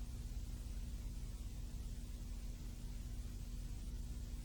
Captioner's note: none